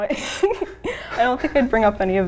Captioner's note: laughing